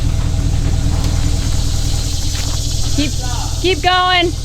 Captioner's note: engine Rumbling